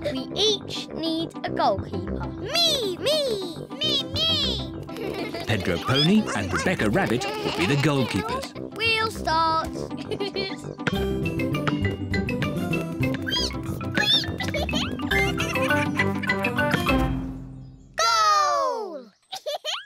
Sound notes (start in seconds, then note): 10.4 laughs; 13.8 squeaking; 19.3 giggles